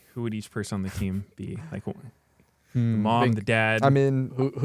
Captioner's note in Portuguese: risos